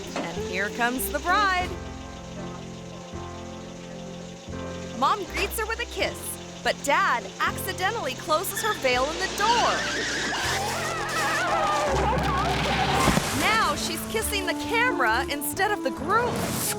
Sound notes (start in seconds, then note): 2.4 bright music; 9.2 bride screams